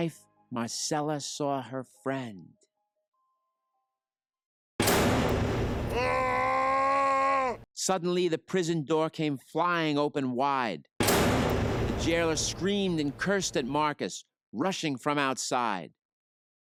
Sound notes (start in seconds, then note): 4.8 door slams; 5.4 jailer yells; 11.0 door slams